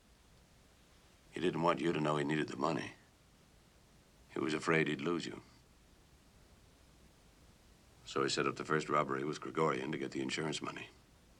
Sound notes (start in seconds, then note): none